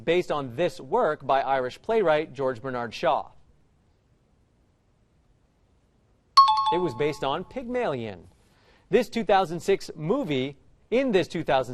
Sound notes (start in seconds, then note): 6.4 time chime